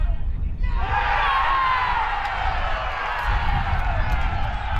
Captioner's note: crowd cheers